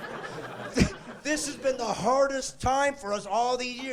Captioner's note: laughing